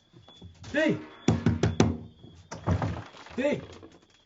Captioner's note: banging